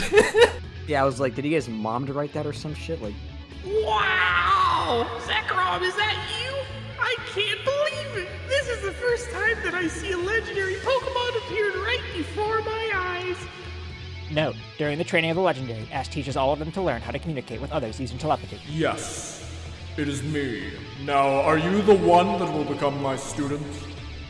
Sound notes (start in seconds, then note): 0.0 laughs; 14.3 speaking really fast